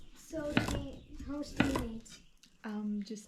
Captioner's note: crunching